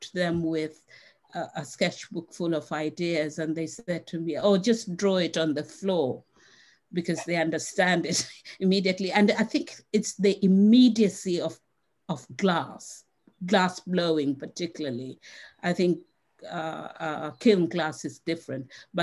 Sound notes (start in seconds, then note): 7.1 laughs